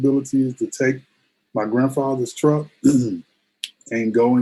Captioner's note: clears throat